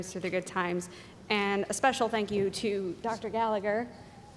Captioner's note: none